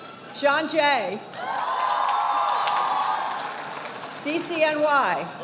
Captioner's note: audience applauding